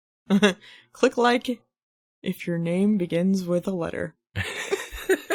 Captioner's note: laughs